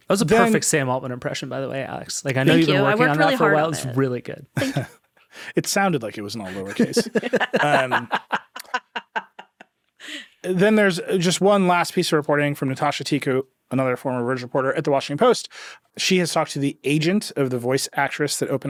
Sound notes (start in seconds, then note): 6.4 laughing